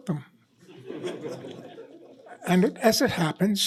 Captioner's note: laughter